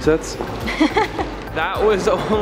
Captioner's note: laughter